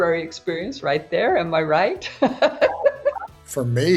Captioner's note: laughs